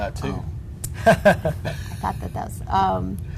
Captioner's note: laughs